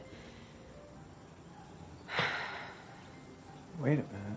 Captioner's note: sighs